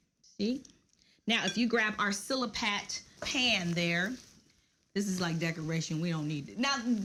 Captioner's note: none